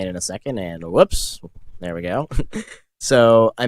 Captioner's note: chuckles